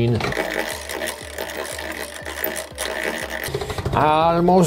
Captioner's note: machine whirring